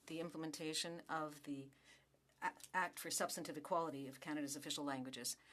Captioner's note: speaking French